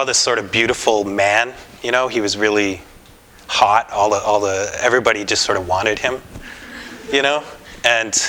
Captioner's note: laughter